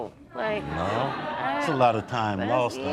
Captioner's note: audience laughing